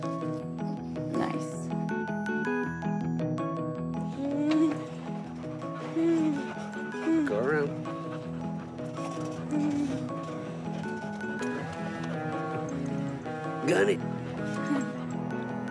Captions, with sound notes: Nice. (GENTLE MUSIC) (CHUCKLES NERVOUSLY) Go around. Gun it.